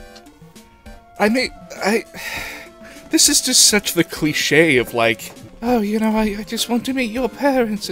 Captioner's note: sigh